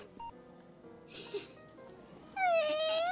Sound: gasp; sobbing sounds

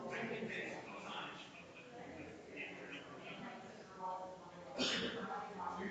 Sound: people chattering distantly continues

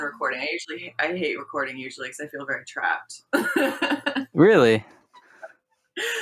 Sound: laughs

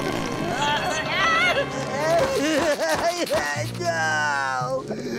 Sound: shouting

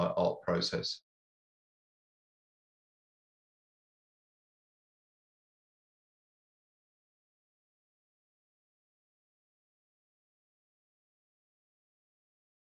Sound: speaking Russian

